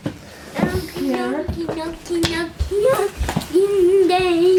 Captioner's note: vocalizing